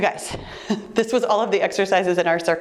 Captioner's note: chuckling